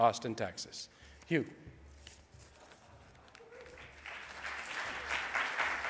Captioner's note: audience applauds